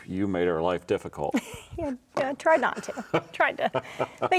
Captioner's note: chuckles